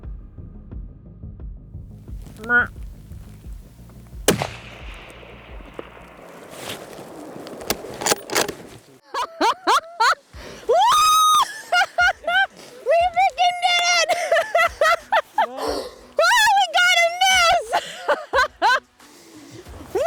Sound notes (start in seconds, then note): 3.1 rifle reports; 7.8 rifle clacks; 9.0 laughs; 18.5 laughs